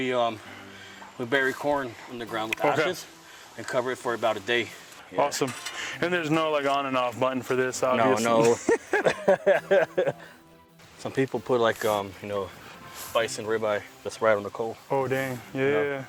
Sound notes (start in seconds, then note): 8.4 laughing